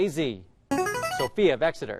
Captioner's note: chiming